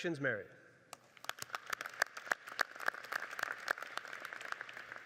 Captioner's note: audience applauding